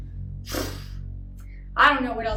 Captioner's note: huffs